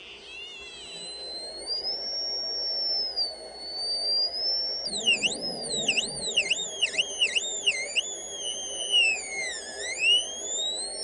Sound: buzzing noise

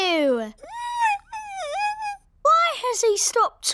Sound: squeaks

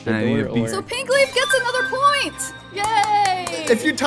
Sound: upbeat alarm chimes; clapping hands

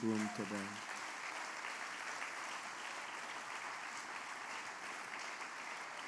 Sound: applause

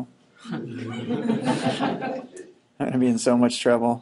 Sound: students laughing

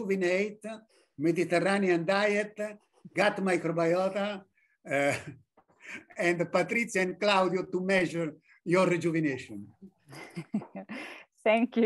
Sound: laughs

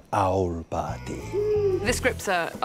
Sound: owl hoots

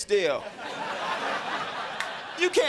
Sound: crowd laughing

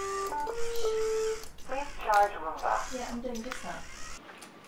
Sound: beeping

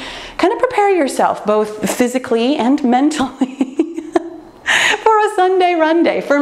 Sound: laughs

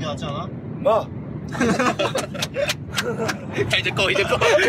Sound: laugh

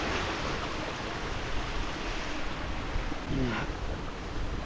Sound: sound of rushing water

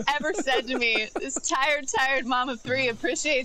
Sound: laughter

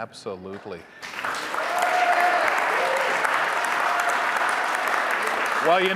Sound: audience applauding; audience cheering

